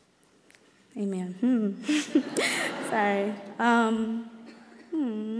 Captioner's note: laughs; audience laughs